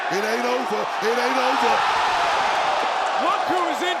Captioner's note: crowd cheering